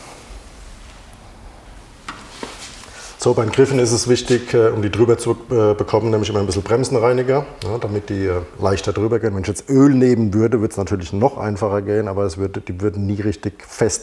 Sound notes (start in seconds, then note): none